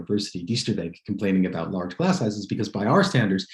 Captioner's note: non-english